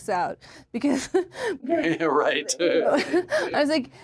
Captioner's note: chuckles